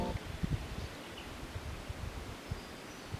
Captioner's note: quiet birdsong